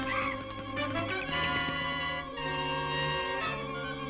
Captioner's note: bat shrieks